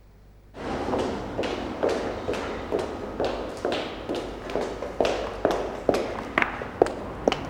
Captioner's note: echoing footsteps